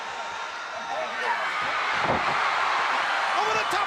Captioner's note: crowd cheering